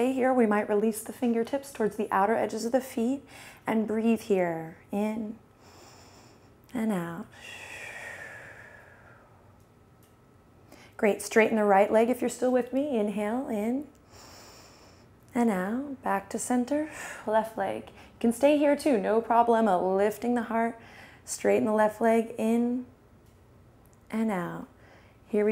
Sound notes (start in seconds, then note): 5.6 inhales; 7.3 exhales; 14.1 inhales; 16.9 exhales